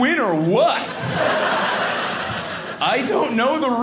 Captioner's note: audience laughing